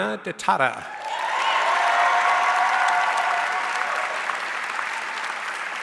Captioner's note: audience cheers and applauds